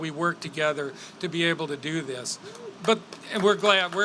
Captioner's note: applause